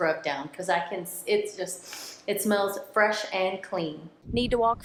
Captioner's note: sniffs